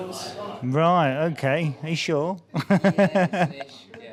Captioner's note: laughs